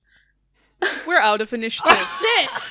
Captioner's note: laughter